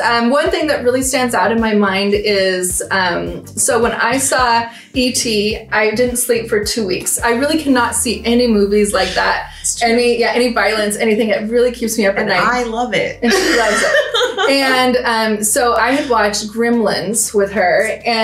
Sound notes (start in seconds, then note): 14.7 laughs